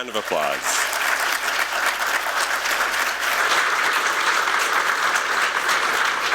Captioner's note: applause